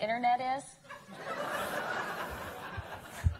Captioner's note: laughter